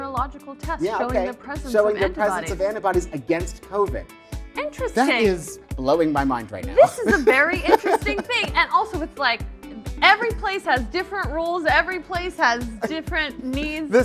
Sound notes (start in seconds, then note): 8.5 laughing